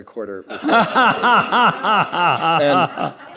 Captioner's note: laughter